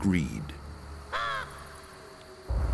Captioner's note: caws